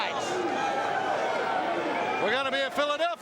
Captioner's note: crowd chatter